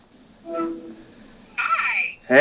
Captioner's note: phone connecting